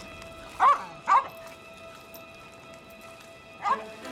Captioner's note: dog barking